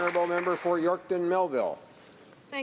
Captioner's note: some Applause